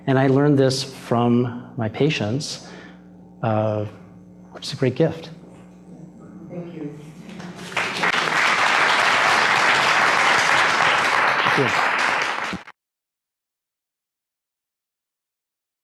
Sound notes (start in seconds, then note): 7.4 applause